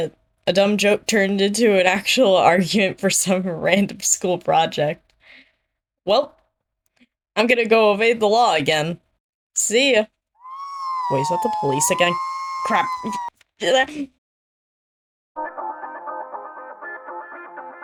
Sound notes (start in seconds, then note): 13.2 panicked noises